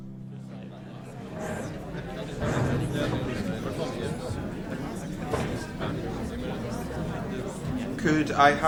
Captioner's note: chattering